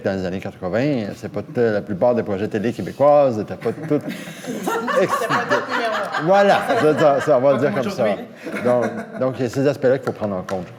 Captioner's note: laughter